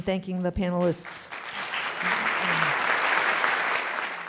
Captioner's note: applause